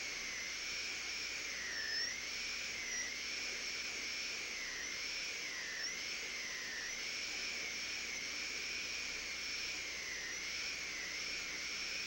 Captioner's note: drilling sound